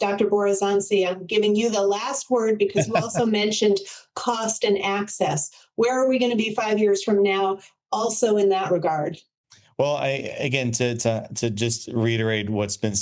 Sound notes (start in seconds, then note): 2.6 laughs